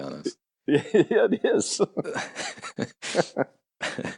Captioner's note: laughs